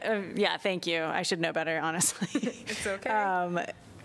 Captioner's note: laughter